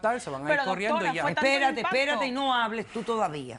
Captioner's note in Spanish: Hablan al unísono